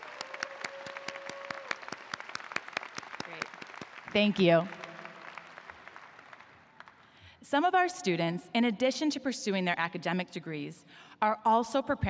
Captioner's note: applause